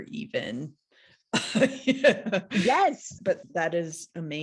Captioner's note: laughs